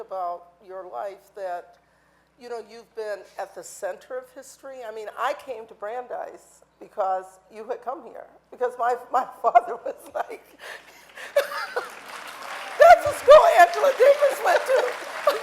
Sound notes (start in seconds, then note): 10.8 audience applauding